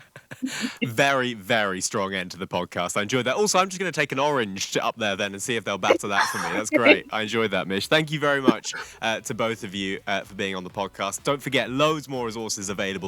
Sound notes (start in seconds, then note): 5.9 laughing